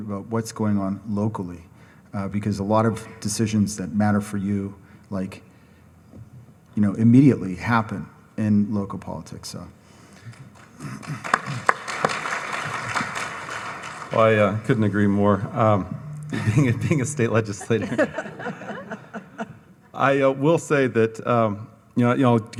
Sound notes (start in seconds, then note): 10.4 audience applauds; 18.4 all laugh